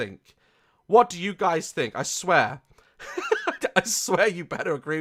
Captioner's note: laughs